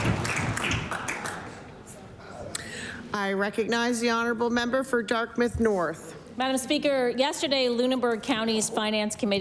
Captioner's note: cheering and Applause